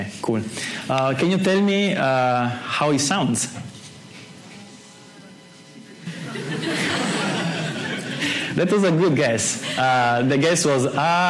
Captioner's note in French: Étudiant : « aaaaaaah », rires